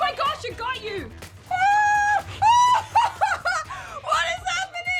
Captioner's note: laughs